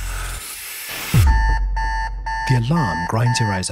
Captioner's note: alarm blaring